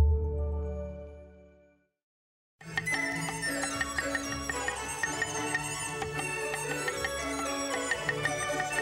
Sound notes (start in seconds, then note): 2.7 joyful music; 3.0 repetitive knife chopping